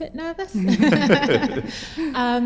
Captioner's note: laughter